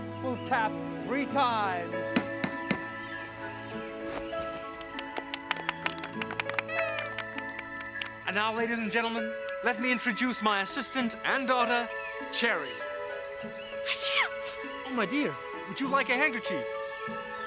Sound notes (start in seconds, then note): 2.6 tapping three times; 4.8 applauding; 13.8 sneezing